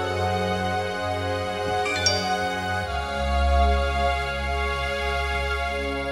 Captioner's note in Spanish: Aviso de mensaje